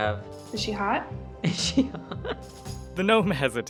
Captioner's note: laughter